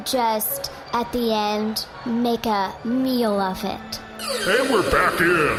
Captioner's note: laser sound effect